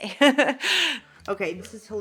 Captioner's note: Elle laughing